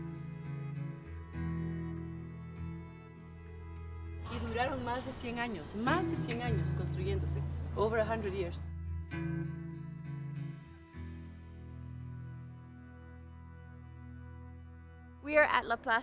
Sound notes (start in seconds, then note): 4.1 in Spanish